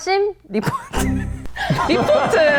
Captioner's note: failed to hold back laughter